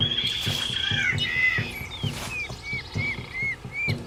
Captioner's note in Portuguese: Continua o canto dos pássaros; Tambores